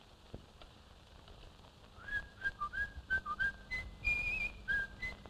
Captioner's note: whistles